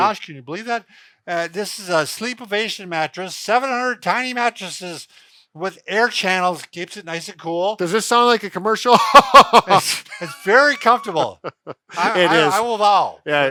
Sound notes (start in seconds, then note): 8.9 laughs